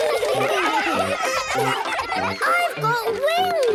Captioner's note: excited laughter